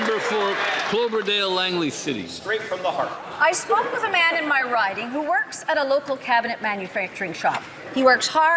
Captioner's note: some Applause